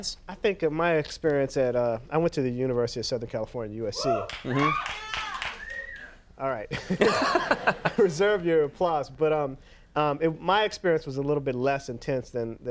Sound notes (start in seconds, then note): 3.9 audience cheers; 6.7 Conan laughs